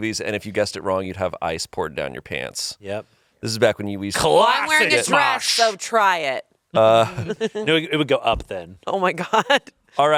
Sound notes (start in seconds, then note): 6.9 laughs